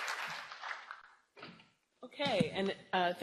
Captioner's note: applause